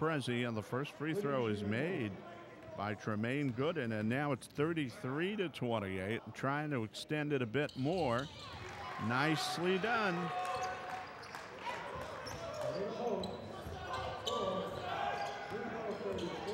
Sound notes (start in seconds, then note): 8.5 crowd cheering; 10.2 clapping; 12.1 shoes squeaking